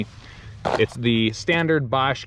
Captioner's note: paper rustling